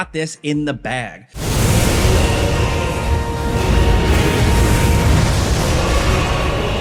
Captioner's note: dramatic music; attacks whooshing